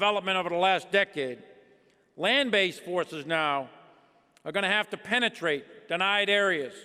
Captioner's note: none